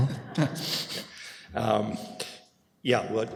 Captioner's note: laughter